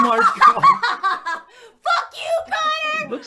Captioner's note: laughing